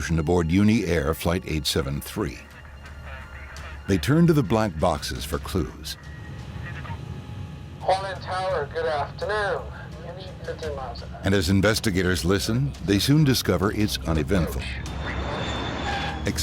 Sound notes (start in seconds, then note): 6.4 humming; 15.2 airplane engine roaring